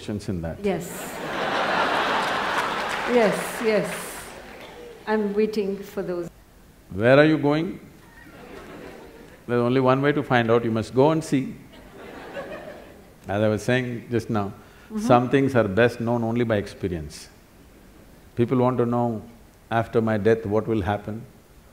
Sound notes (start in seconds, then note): 1.1 laughter/Applause; 8.1 laughter; 11.7 laughter